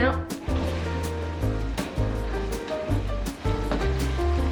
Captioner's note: food sizzling